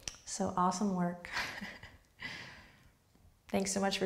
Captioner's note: laughs